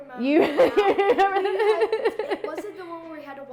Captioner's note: laughing